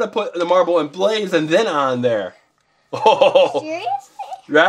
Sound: laughs

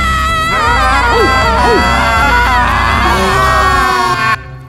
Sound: all screaming

